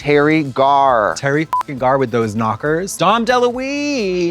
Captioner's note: beep